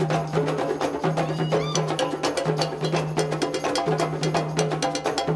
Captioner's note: woman cheering